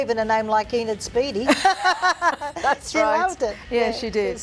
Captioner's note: laughing